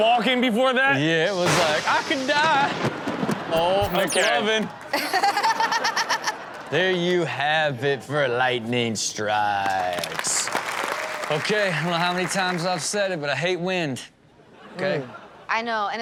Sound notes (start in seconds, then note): 4.6 audience laughs; 4.9 Chanel and audience laugh; 9.8 audience applauds